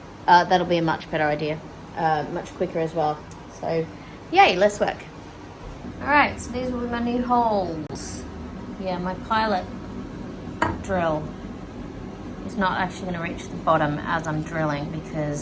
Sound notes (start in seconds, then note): none